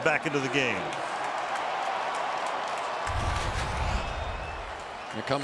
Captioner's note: cheering